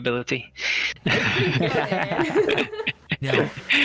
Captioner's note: all laughter